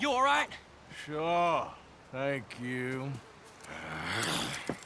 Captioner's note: sighs